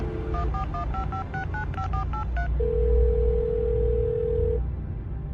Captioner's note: phone dialing and ringing